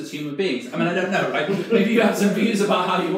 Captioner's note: audience laughs